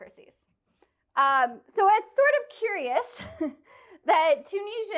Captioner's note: laughter